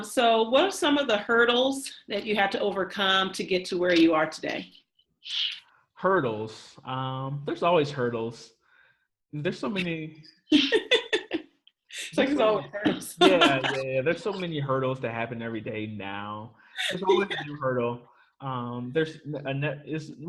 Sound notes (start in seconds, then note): 10.5 laughs